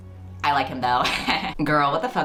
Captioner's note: laughs